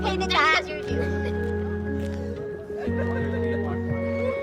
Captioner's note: indistinct chatter